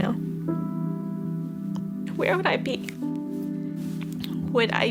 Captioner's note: voice breaking